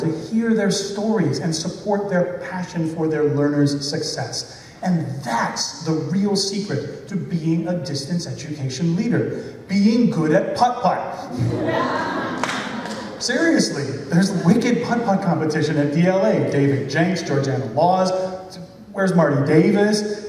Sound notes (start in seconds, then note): 11.3 laughter